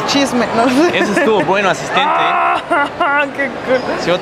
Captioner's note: screams in excitement